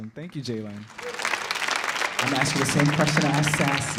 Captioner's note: audience clapping